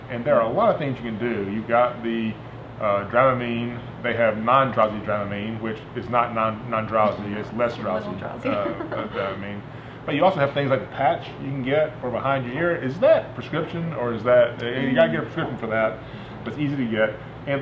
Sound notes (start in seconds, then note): 8.4 laughing